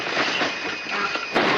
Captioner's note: stall alarm